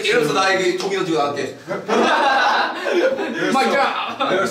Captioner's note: hAhAHAHAHAHHAHAhahahHAHAHah